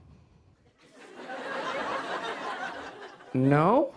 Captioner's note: laughter